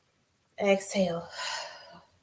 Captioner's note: exhales